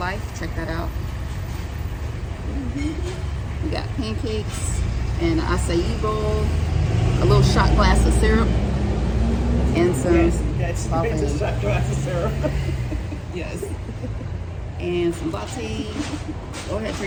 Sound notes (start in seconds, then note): 11.4 woman laughing